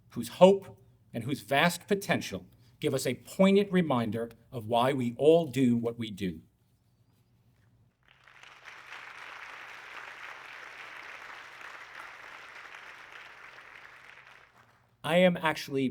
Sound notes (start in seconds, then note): 8.0 audience clapping